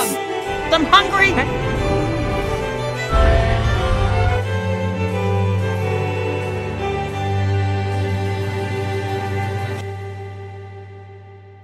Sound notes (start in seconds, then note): 3.1 Rodan 2019 roars